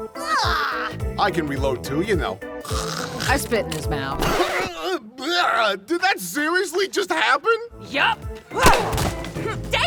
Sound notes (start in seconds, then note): 2.6 hocks a loogie